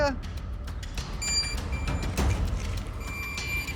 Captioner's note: device beeping